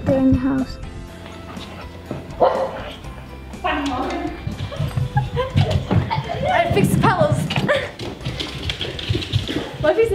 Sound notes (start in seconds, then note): 1.4 dog barks